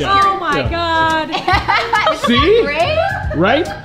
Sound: laughing

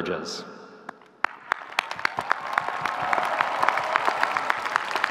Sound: audience clapping

